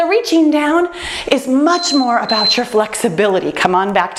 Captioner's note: timer beeps